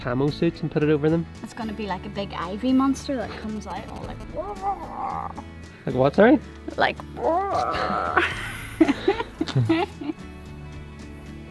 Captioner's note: grrr